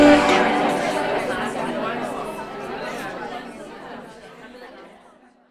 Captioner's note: women chatter